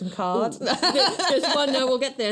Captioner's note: laughs